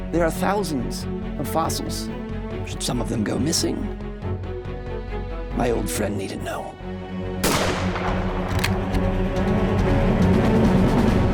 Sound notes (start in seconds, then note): 7.4 gunshot; 7.4 cocks rifle